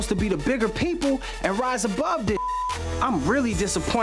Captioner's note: beep